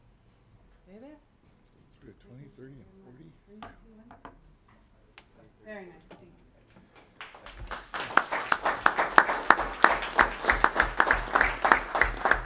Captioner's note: applause